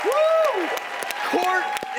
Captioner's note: audience applauds; audience cheers